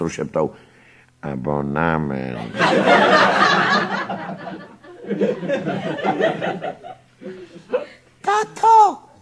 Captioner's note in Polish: śmiech